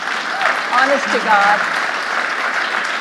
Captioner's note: audience applauding